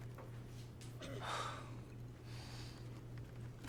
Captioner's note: babysitter sighs